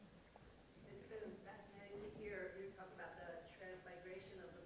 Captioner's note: voiceover